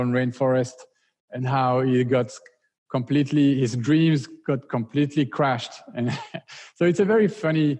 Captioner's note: laughs